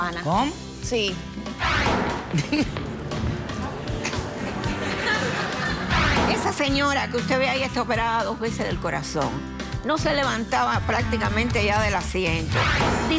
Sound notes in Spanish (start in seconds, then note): 4.4 risas